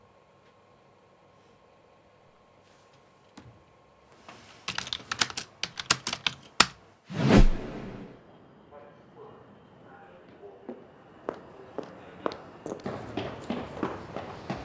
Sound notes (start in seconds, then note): 4.3 keyboard clicking; 11.3 footsteps